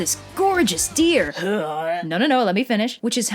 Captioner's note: barfing noises